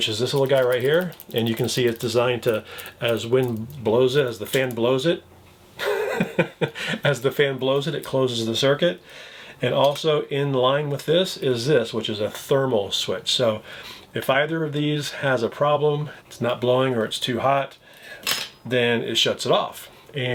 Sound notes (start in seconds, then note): 5.8 chuckles